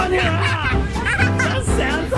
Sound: giggles

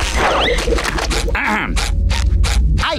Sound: clearing throat

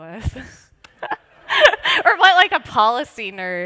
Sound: laughter

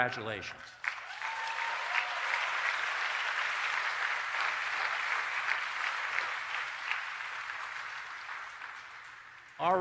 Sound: applause and Cheering

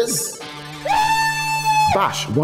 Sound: whoops

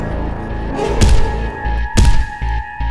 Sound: thumps

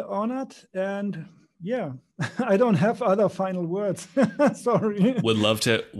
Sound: laughs

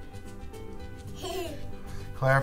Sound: laughs

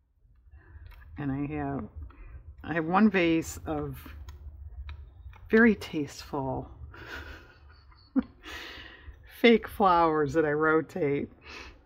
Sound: laughs

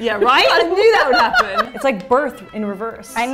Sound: laughing

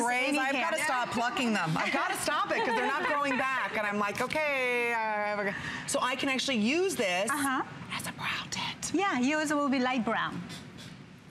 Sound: laughter

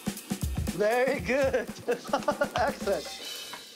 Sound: laughing; cymbals crash

